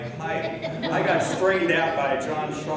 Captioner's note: laughing